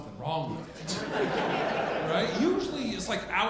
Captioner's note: audience laughing